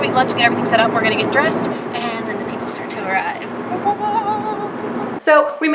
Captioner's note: weird excited noise